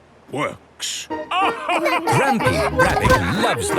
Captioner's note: all laugh